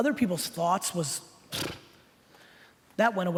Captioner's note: blowing raspberries